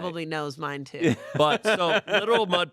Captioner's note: laughs